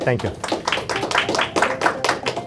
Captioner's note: applause